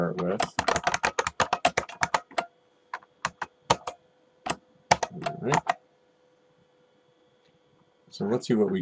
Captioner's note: typing